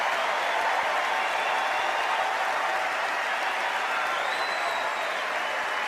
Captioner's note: applause